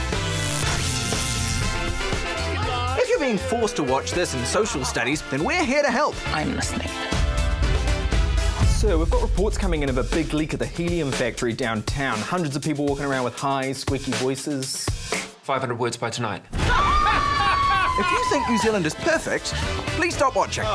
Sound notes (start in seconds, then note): 0.0 electricity crackles; 16.6 screaming; 16.9 laughs evilly